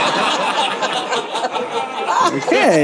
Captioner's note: audience laughing